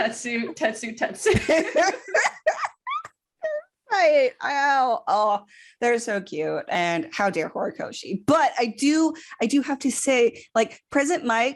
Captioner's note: laughter; stammers